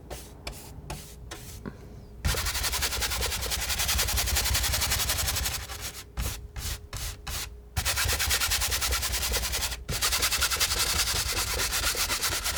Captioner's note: scratching